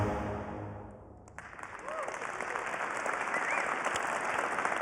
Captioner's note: applause